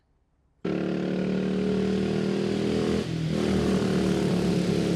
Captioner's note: engine rumbling